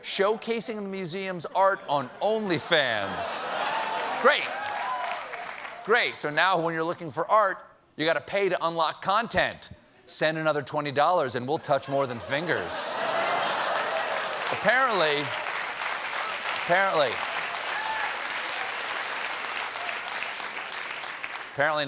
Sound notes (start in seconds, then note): 11.9 laughter; 12.5 applause; 19.4 applause